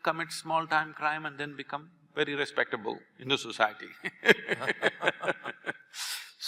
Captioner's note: both laugh